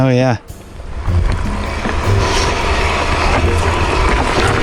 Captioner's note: wheels rolling